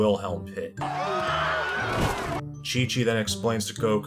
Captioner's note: Wilhelm scream